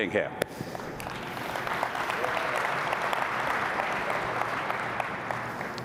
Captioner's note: applause